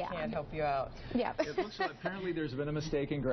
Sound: laugh

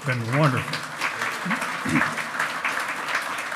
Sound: loud clapping

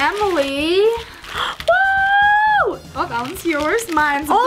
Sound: gasps

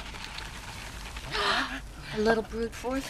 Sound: gasping

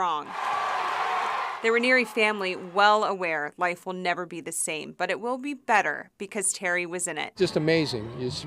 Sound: applause

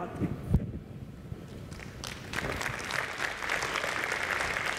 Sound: applause

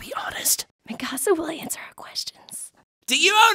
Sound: whispering

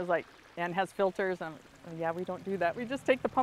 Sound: water gurgling

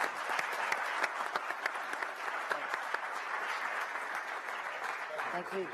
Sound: applause

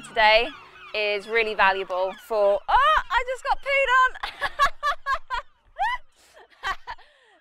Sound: laughs

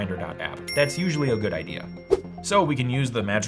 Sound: ding

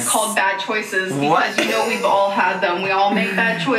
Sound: laughs

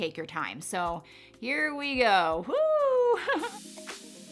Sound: laughing; happy music

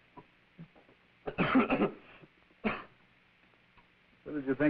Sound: man coughing

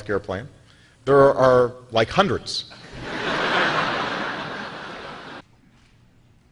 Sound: laughter

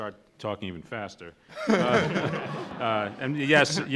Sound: laughs

